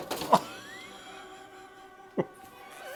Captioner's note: laughing